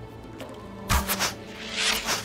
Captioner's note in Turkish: Ok sesi